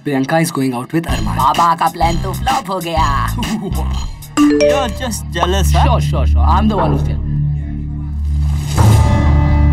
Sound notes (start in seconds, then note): 4.4 Message notification